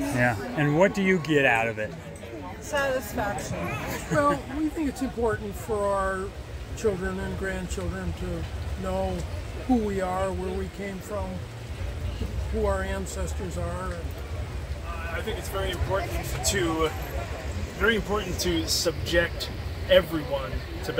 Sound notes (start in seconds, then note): 3.5 laughs